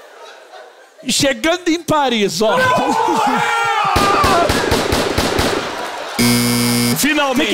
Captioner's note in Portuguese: grita; campainha